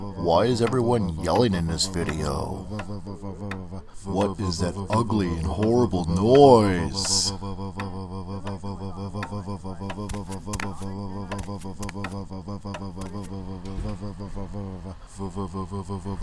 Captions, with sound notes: Why is everyone yelling in this video? What is that ugly and horrible noise? (footsteps) (door close)